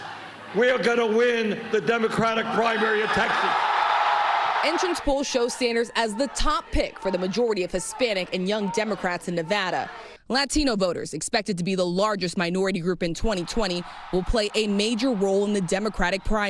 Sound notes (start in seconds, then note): 8.6 cheers and applause